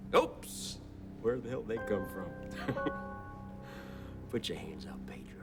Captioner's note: laughs